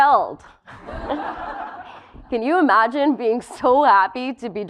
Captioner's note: laugh